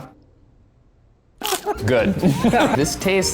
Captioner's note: bugs crunching; laughing